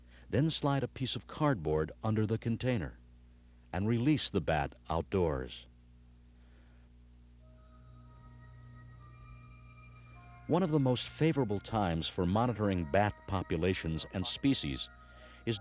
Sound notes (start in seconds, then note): 7.5 insects chirping; 7.5 bright orchestral music